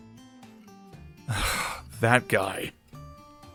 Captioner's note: sigh